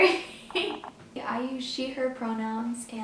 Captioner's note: laughs